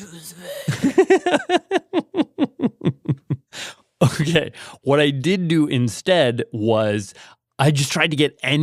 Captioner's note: laughs